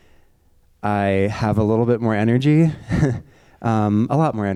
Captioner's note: chuckles